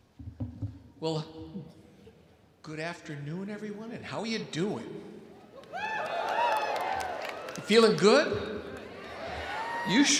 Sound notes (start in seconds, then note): 5.6 audience cheering